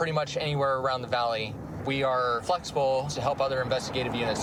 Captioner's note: none